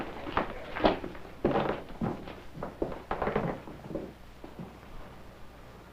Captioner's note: speaking in foreign language